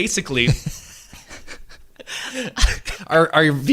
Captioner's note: laughing